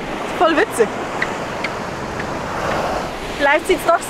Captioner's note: sand squeaks